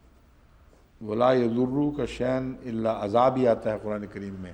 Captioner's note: Arabic